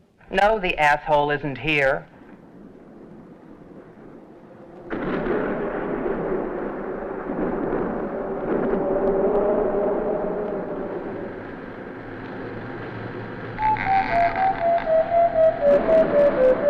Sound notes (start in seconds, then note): 5.0 thunder crashes; 13.5 mysterious music